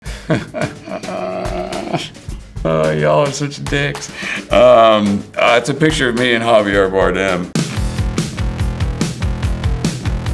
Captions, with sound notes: (Jeffrey laughs) - Oh, y'all are such dicks. It's a picture of me and Javier Bardem. (upbeat music)